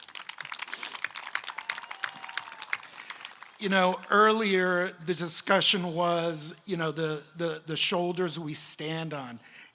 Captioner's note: applause